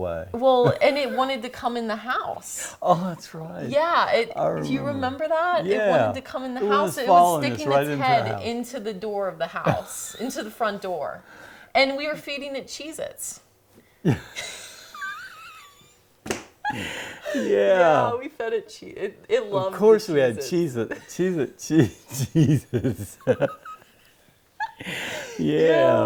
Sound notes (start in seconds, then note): 14.0 laughter